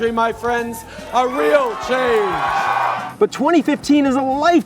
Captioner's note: crowd cheers